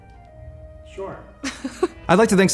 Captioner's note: laughs